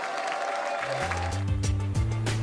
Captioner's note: applause and cheering